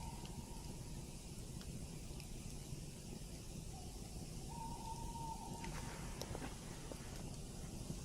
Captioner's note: voice of a forest bird in the distance